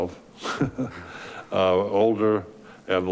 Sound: laughing

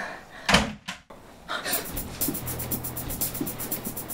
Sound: sound door closing

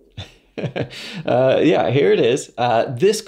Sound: laughs

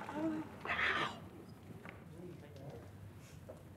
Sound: whispers

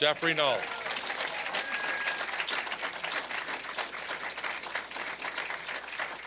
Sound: applause

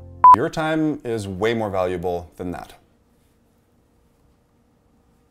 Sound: beep

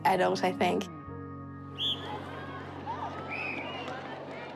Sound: whistle blows sharply

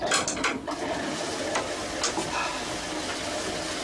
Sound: toilet flushing

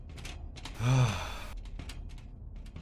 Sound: sigh

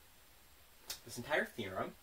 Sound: smack

